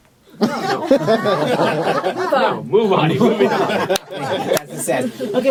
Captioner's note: laughter